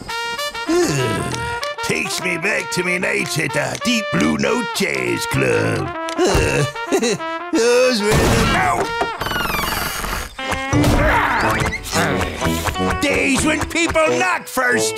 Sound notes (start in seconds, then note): 6.2 chuckles; 8.1 loud thudding; 11.0 grunting